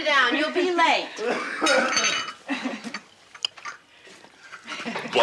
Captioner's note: Barney coughs; cups clinking